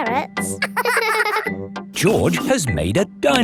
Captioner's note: both laughing